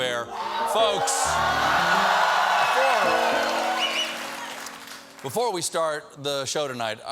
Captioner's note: cheers and applause